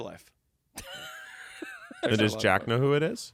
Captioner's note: laughs